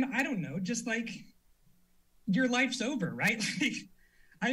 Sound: chuckles

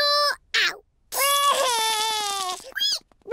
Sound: cries

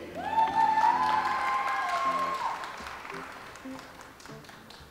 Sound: audience applauds

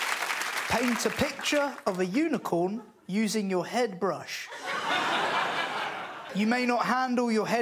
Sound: crowd applauds and cheers

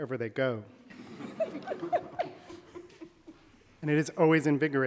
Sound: audience laughing

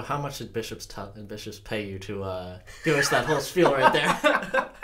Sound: laugh

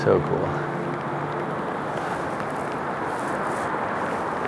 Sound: wind blowing

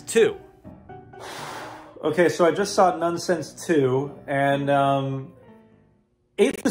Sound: deep sigh

